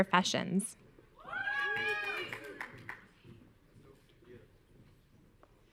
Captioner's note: audience cheering